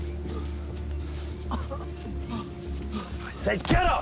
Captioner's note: coughing